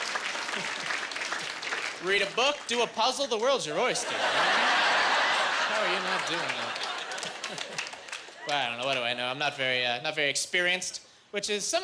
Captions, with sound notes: Read a book, do a puzzle. The world's your oyster. (Laughing) I don't know. What do I know? I'm not very experienced, which is something